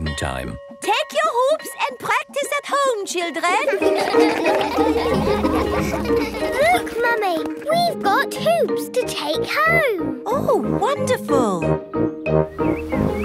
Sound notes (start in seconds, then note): 3.6 all laugh